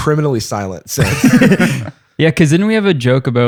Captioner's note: laughter